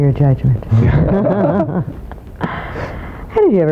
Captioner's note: laughter